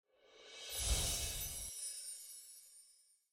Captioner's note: chimes tinkling